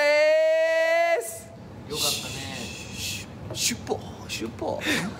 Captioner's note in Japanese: 棒読み